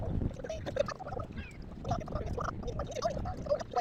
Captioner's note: chitchat